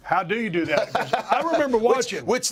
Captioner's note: laugh